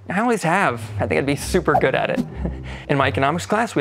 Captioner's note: chuckling